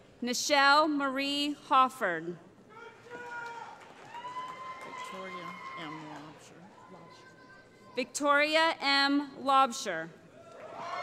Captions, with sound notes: Nichelle Marie Hofford [ Cheering ] Victoria M. Laubscher